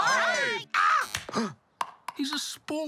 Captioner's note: gasps